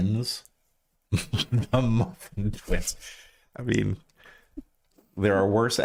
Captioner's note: laughs